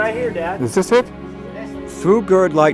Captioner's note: bell tolling